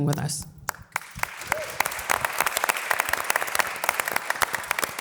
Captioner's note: audience applause